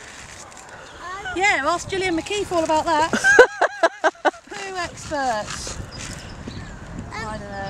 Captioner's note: laughter